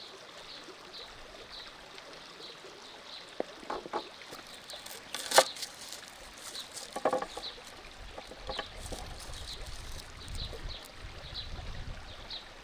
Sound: birds chirping

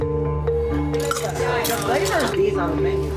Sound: tense music beginning; patrons chattering; ice scoop rattling

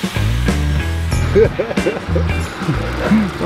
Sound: laughing

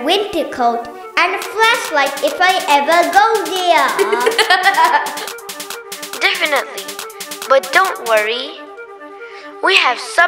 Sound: laughs

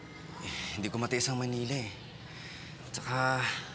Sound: sighs

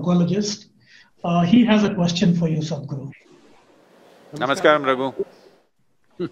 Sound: laughs

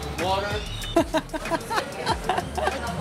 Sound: laughs

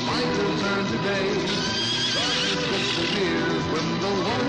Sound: house neighs

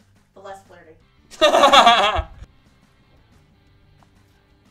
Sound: laughing

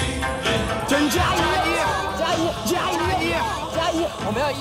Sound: cheering

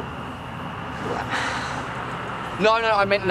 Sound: laughs

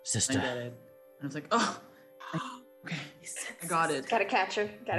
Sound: sighs

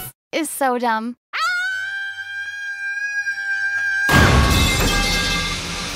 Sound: screaming

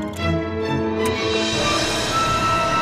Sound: click

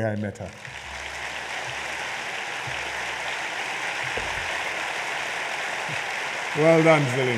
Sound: applause

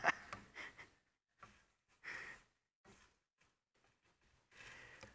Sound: laughs

